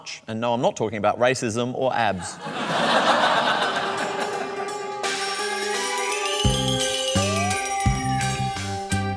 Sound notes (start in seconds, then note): 2.2 laughter